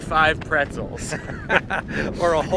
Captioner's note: both laughing